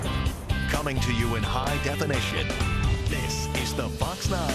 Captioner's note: voiceover